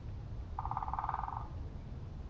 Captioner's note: woodpecker Knocking